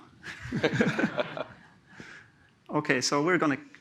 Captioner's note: laughter